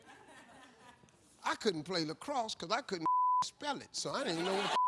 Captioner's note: audience chuckling; beep